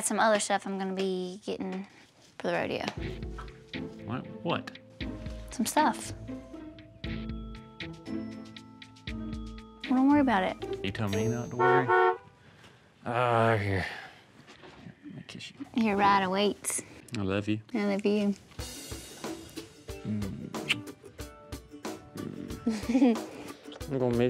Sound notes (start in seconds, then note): 11.4 car horn